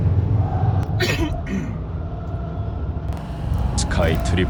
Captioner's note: dad coughs